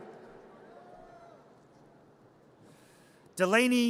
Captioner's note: audience cheers